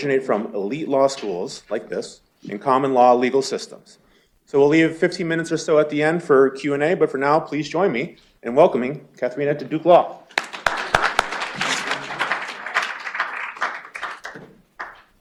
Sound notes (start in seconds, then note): 10.3 applause